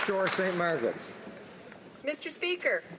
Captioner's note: some Applause